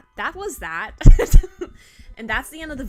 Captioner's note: laughs